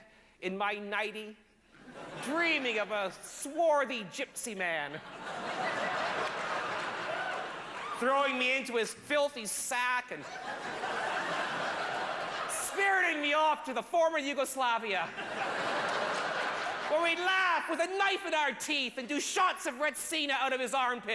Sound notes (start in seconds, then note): 4.9 laughter; 10.2 laughter